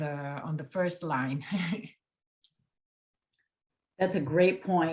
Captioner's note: laughs